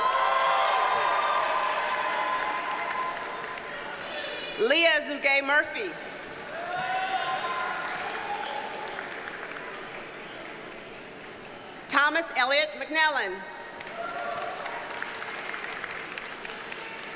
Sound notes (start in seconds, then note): 0.0 audience cheers and applauds; 6.2 audience cheers and applauds; 13.8 audience cheers and applauds